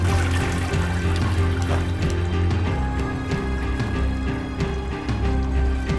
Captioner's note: toilet flushing; intense music